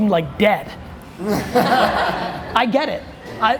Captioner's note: group laughter